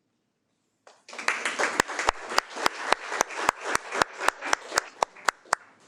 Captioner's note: audience applauding